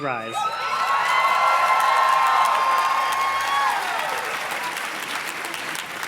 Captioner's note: audience cheers and claps